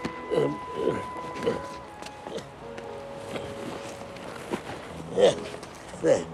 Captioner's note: man groaning